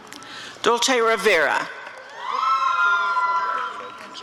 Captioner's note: applause and cheering